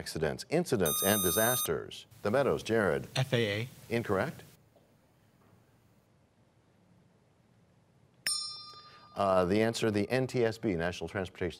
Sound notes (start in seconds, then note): 8.3 bell rings, time expires